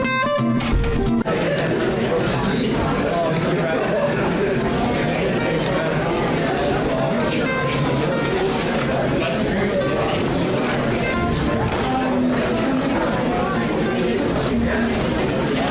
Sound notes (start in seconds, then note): 0.0 fridge door; 0.9 chattering